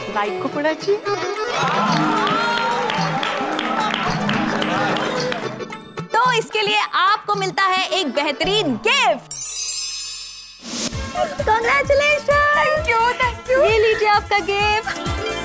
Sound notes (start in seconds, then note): 1.5 applauding